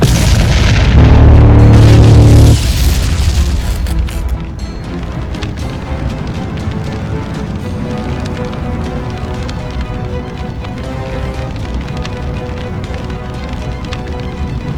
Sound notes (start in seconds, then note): 5.2 flames whooshing